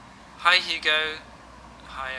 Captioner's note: augusto, on voicemail recording